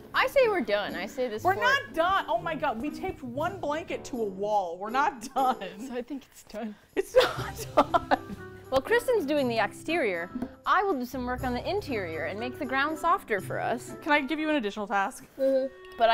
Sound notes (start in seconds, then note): 7.0 laughs